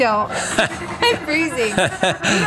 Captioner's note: narrator laughs